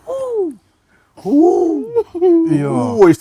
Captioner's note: screaming